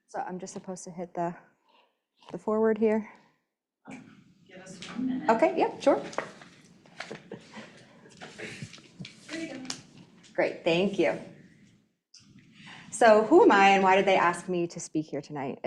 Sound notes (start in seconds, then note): 5.9 objects rustling